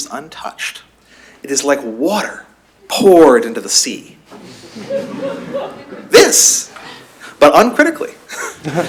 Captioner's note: laughter; laughter